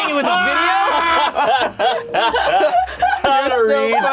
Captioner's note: all laughing loudly